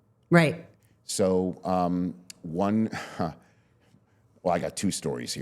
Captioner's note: chuckles